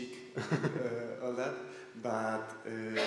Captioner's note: laughter